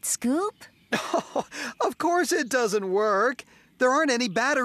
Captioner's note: chuckling